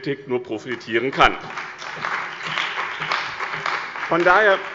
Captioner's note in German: Beifall bei dem BÜNDNIS 90/DIE GRÜNEN und der CDU